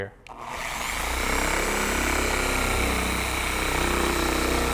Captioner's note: polisher motor running